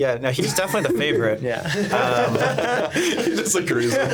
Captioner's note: laughing